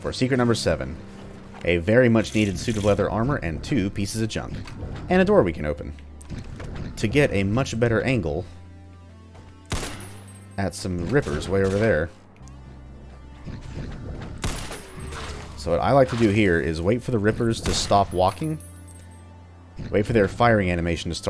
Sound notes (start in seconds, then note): 9.6 Battle Rifle shot